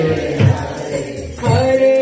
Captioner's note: chanting